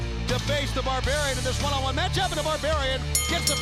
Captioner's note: bell ringing